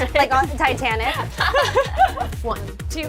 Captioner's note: laughs